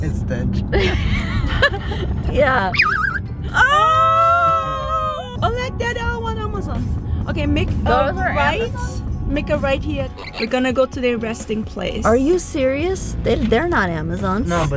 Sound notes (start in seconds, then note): 0.1 laughs; 0.7 all laughing; 2.7 bird chirps; 10.1 bird chirps